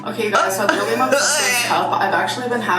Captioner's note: groans